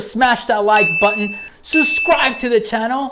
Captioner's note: bell chimes